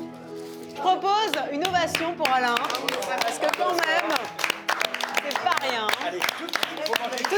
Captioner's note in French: applaudissements